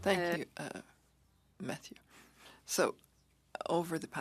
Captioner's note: speaking French